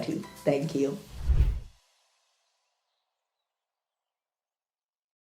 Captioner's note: logo whooshing